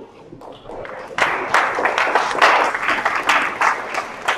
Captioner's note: audience applauds